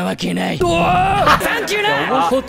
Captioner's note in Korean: 분노